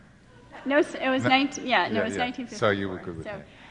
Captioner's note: laughing